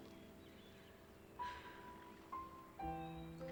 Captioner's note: sighs